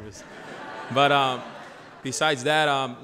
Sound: audience laughter

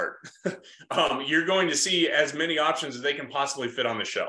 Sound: laughs

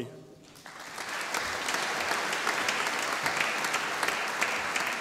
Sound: audience applauding

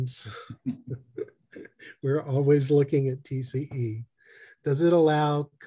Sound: laughter

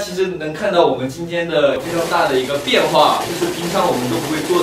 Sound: heart pounding

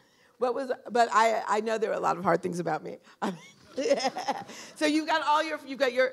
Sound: laughter

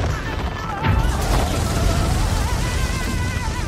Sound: bomb explodes

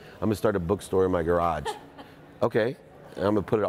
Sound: lady laughs

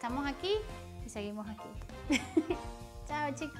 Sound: laughs

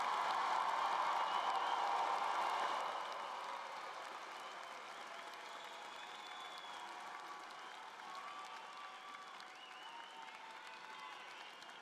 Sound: cheering and Applause

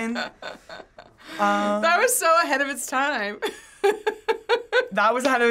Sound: laughing

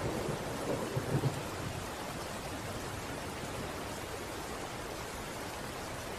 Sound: water rippling through the river

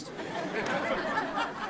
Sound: laughing

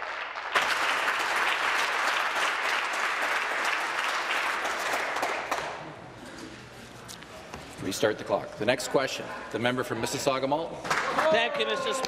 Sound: applause

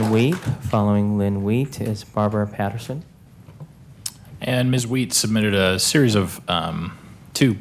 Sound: applause

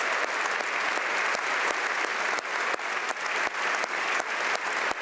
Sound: speaking French; applause

